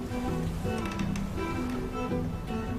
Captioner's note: June's chair creaks